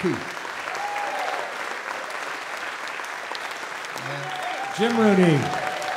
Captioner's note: audience Cheers and Applause